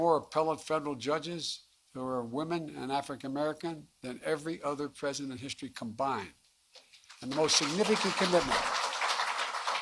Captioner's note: applause